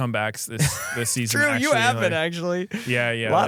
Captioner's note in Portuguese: risos